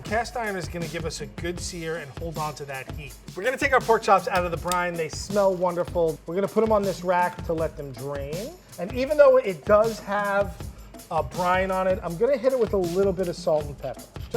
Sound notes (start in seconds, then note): none